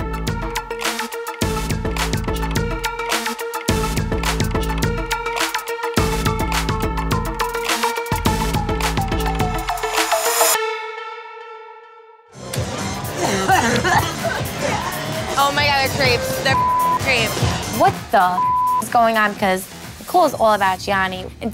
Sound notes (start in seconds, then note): 0.3 uptempo dance music; 13.1 Jenni laughing; 13.2 Jenni coughing; 16.1 beep